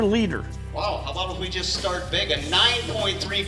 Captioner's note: voiceover